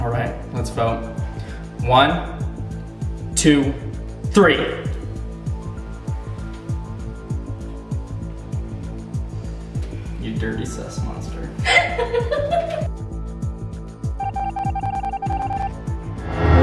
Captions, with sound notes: Alright, let's vote. One, two, three. You dirty sus monster. (laughing)